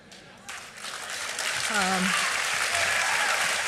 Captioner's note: applause